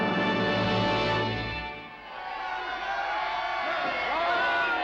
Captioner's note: voices cheering